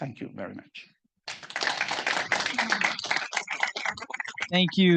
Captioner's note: audience applauding